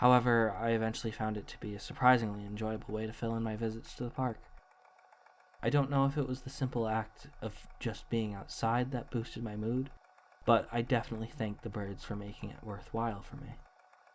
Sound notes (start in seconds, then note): none